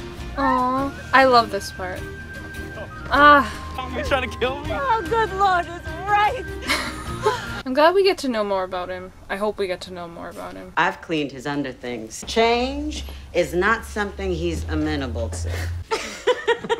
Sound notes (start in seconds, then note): 6.5 laughs